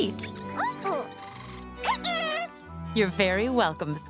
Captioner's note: squeaking